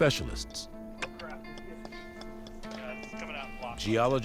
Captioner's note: people talking in background